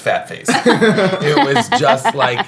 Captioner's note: laughing